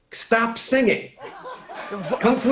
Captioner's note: laughter